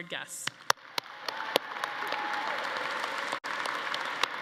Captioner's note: audience applauding